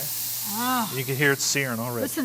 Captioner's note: meat sizzling